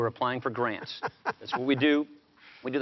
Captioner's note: chuckles